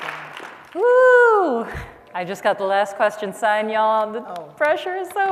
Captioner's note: applause